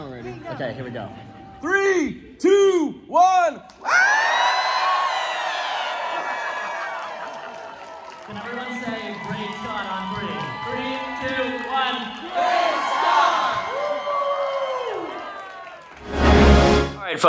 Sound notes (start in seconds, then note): 4.0 crowd cheering; 12.3 crowd; 14.2 crowd cheering